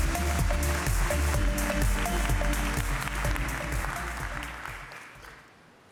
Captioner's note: applause